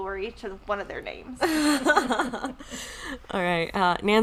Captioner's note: laughing